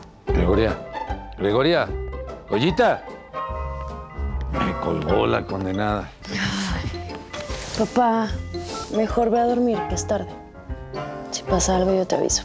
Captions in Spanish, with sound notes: -GREGORIA. ¡GREGORIA! ¡GOYITA! [TONO OCUPADO] ME COLGÓ LA CONDENADA. -AY, PAPÁ, MEJOR VE A DORMIR QUE ES TARDE, SI PASA ALGO, YO TE AVISO.